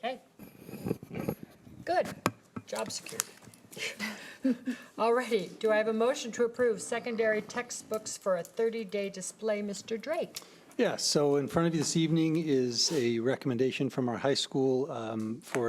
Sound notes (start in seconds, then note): 3.7 laughing